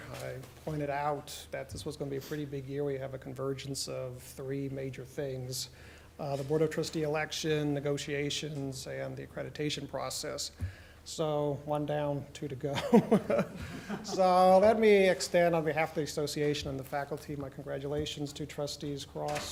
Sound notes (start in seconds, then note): 12.8 laughs